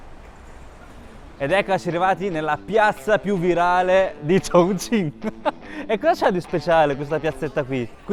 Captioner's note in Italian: risate